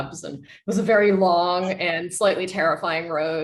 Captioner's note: none